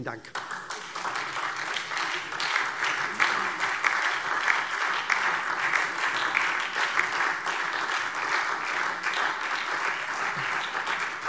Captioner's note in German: Anhaltender Beifall SPD - Vereinzelter Beifall DIE LINKE